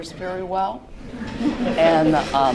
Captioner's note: laughter